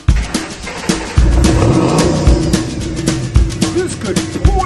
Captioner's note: Mustang starts up